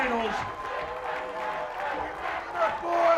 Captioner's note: audience chants